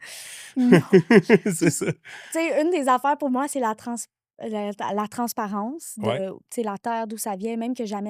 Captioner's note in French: rires